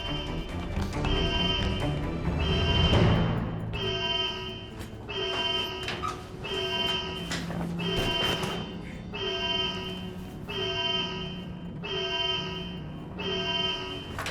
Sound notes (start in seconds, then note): 0.0 alarm